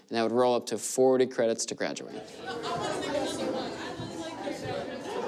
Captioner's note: students laugh and chatter